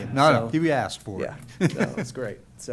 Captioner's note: laughs